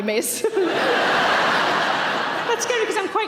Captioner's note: audience laughing